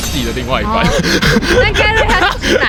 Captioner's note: heavy fudanshi breathing